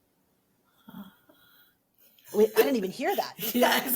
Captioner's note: makes a quiet ahh sound